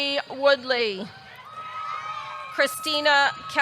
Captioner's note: audience cheering